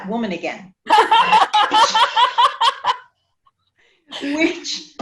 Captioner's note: woman laughs